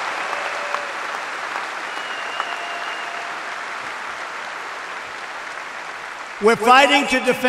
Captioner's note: applause